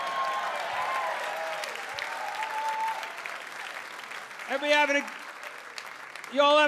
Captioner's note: audience cheering and clapping